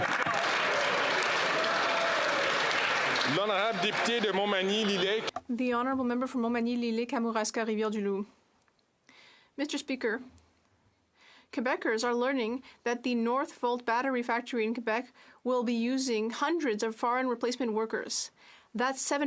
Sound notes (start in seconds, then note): 5.1 some Applause; 8.1 speaking French